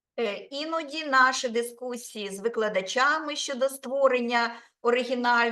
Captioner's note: speaking Ukrainian